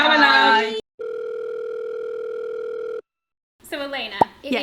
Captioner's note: phone rings